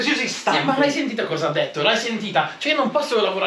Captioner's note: in Italian rage